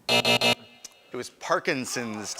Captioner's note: buzzer